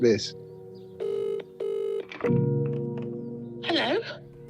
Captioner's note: phone rings